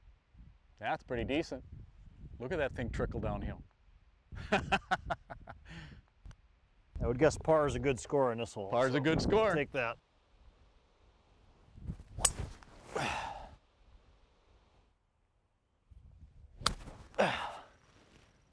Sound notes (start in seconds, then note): 4.3 laughs